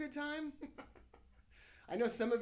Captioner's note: laughing